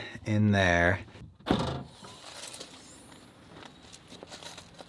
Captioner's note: trunk opens